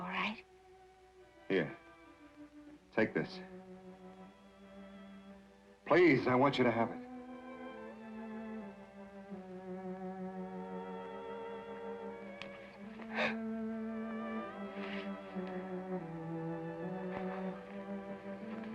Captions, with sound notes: - All right. - Here, take this. Please, I want you to have it. (Sheila gasps)